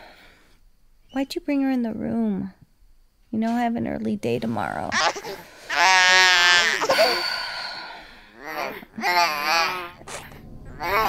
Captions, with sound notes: Why did you bring her in the room? You know I have an early day tomorrow. [ baby's cry morphs into something sinister ]